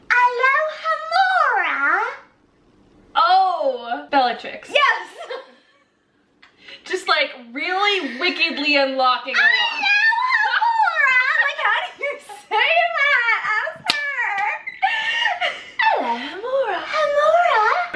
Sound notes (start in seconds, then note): 4.9 silently laugh; 9.3 laughing; 14.3 also laughing